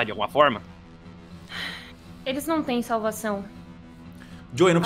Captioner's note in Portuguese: suspiro